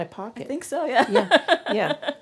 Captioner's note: laughs